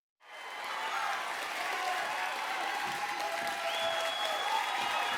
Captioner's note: audience applauding